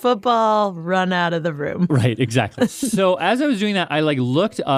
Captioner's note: laughs